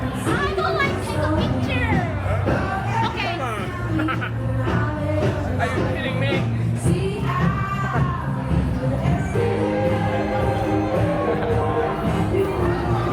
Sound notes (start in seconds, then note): 2.2 laugh